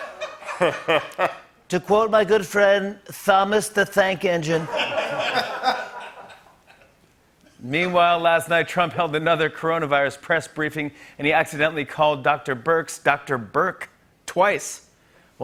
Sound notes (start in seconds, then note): 0.0 laughter; 1.6 As Trump; 4.5 laughter